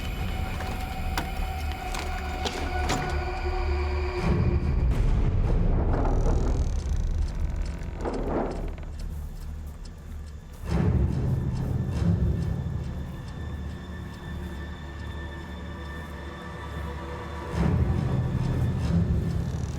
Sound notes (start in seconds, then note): 0.2 intense music; 7.7 gate creaks